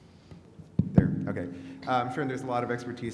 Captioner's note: thumps